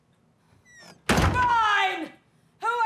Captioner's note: door slamming